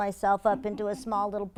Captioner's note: laugh